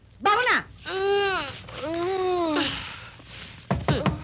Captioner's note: groaning